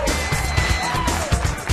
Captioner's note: cheering